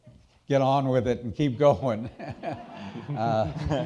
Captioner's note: chuckles